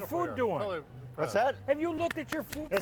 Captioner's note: clapping